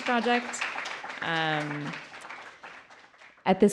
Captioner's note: applause